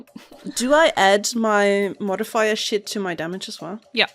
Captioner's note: none